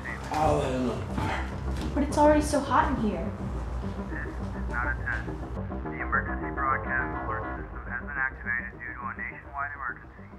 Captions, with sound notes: I'll light another fire. But it's already so hot in here. [radio broadcasting] This is not a test [radio broadcasting] The Emergency Broadcast Alert System [radio broadcasting] has been activated due to a [radio broadcasting] nationwide emergency